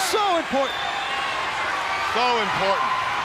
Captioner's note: crowd chatter